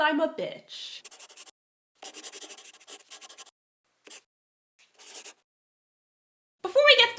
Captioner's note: the sound of a pen scratching. LOGO